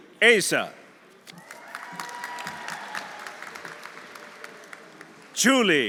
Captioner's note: audience applauding; audience cheering